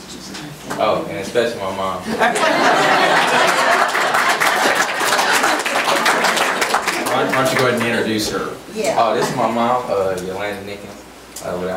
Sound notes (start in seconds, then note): 0.6 audience applauds; 2.0 group laughs; 2.3 audience applauds